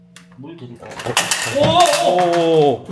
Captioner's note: crash